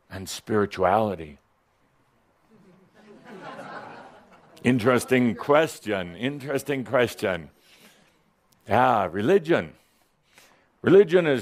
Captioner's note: a few chuckles